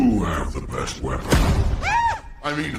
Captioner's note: door slams open; high-pitched scream